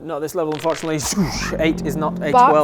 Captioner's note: swoosh